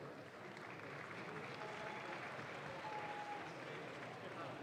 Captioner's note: audience claps